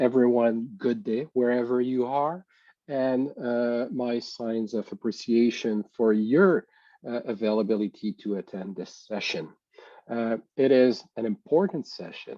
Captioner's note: French language